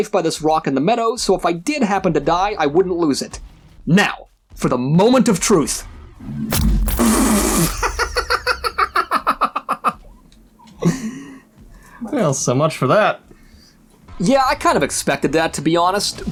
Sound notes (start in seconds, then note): 7.7 laughing